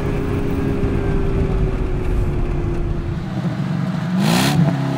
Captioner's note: engine humming continues